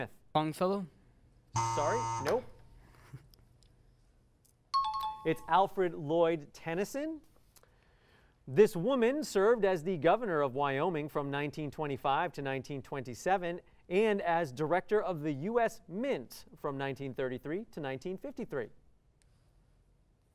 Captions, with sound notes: Sorry, no. [bell ringing] It's Alfred, Lord Tennyson. This woman served as the governor of Wyoming from 1925 to 1927 and as Director of the US Mint from 1933 to 1953.